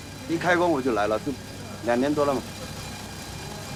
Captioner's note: none